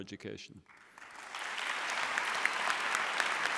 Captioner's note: applause